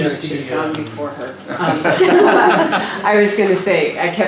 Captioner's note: laughter